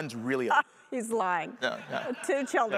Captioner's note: laughs